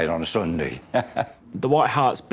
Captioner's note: laughs